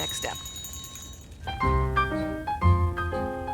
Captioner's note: rings